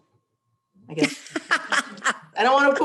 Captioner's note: laughs